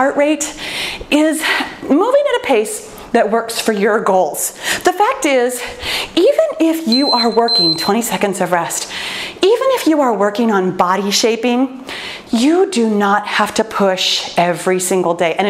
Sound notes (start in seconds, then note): 6.9 timer beeping